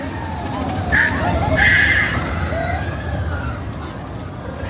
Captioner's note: crowd chattering indistinctly; guest screaming